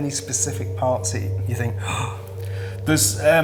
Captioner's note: gasps